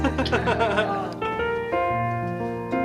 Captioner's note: laughter